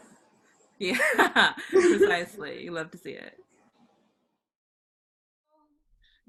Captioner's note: laughs